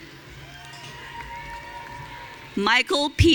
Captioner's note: audience cheering